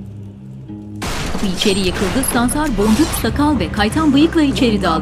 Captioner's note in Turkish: Kapı kırılma sesi